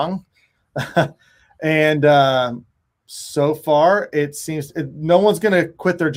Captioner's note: chuckles